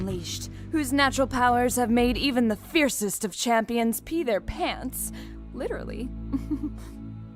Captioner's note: soft chuckle